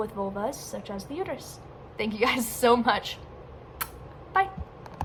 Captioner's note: kiss